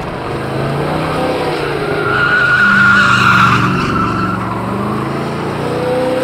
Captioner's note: car revs; tires squeal